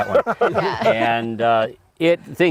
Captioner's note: laughter